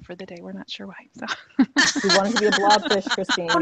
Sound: laughs

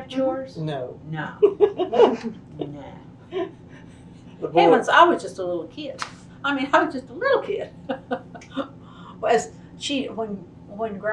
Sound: laughter

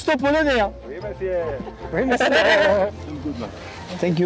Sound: laughs

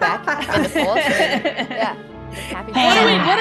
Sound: laugh

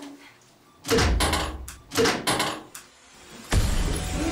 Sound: A knock breaks the silence

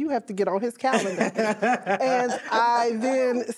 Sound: crowd laughing

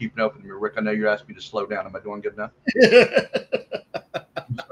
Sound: laughs

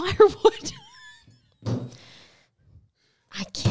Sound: laughing

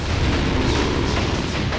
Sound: growling

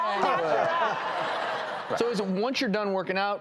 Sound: audience laughing

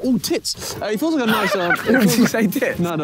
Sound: Tobi laughing

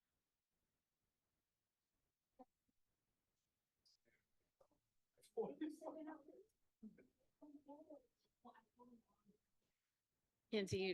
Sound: audio cuts out

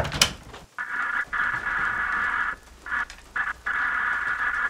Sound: walkie talkie crackling

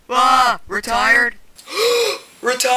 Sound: gasp

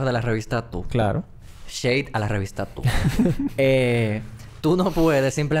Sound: laughs

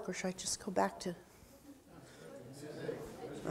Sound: audience talking

